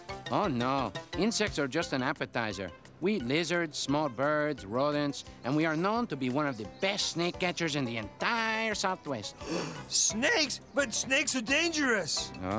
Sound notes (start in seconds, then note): 9.4 gasps